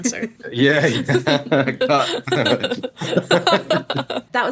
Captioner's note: both laughing